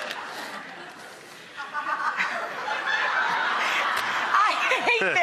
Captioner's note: audience laughing